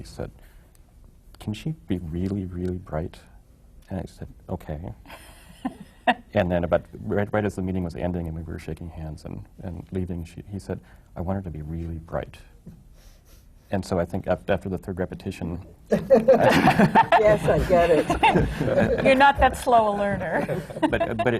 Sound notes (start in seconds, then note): 5.1 laughs; 15.9 laughter